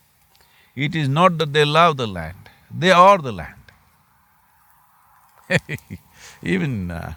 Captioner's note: chuckles